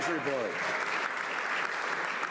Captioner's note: some Applause